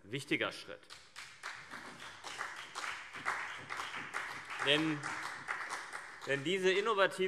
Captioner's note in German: Beifall CDU und BÜNDNIS 90/DIE GRÜNEN